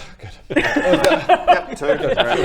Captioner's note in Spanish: risas